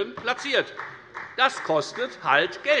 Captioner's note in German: Beifall bei der FDP